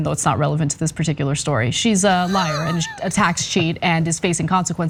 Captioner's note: laugh